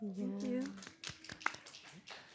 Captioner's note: applause